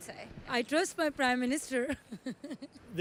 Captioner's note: giggles